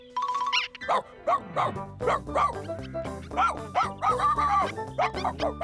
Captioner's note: Scruffty Barking Excitedly